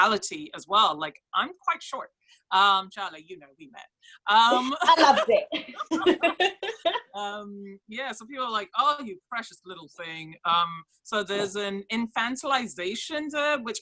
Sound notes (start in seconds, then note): 4.5 laughs